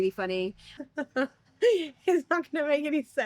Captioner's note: laughs